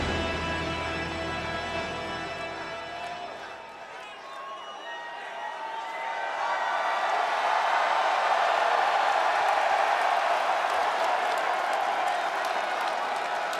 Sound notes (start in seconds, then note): 6.9 crowd cheering